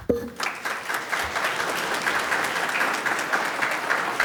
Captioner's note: audience applauds